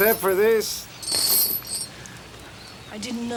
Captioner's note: chain rattles